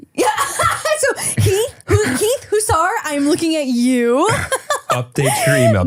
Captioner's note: laughs; laughs